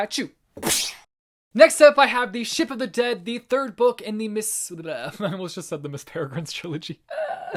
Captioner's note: laughter